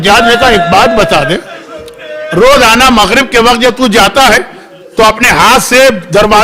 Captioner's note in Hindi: हंसी